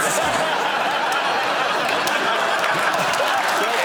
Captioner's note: laughter